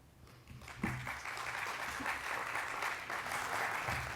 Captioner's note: audience clapping